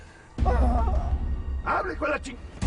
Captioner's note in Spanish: Quejidos